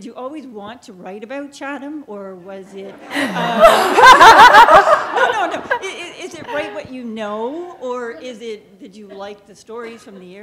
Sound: laughter

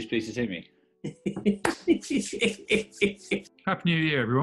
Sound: mischievous laughing

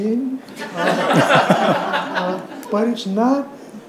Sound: audience laughs

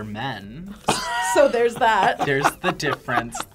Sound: laughs

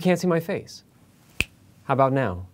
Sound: snap fingers

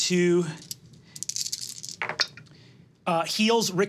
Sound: dice clattering

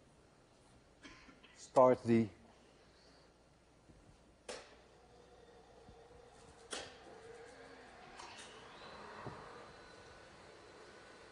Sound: switch clicks; swith clicks, zooming of the Vandergraaff

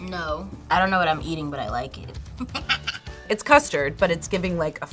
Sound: laughs

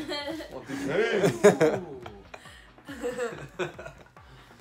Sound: laughing

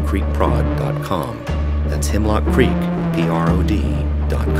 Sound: none

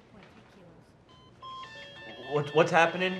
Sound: beeping alarm

